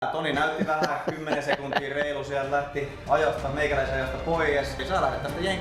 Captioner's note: laughing on background